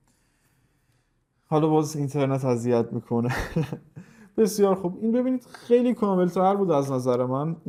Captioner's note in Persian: خنده